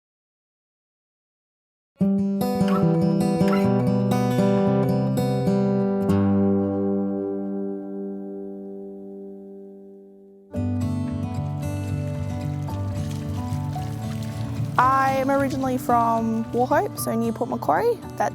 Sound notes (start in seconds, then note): 2.2 contemplative music; 10.6 gentle acoustic music; 12.0 water splashing